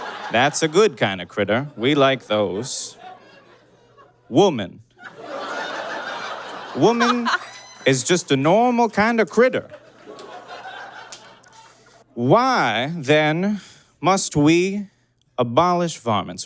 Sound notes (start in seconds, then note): 0.0 audience laughs; 5.0 laughter intensifies; 9.8 audience cackles